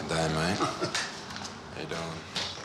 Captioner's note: laughs